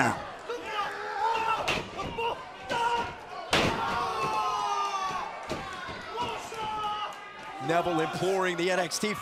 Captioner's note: crowd chatter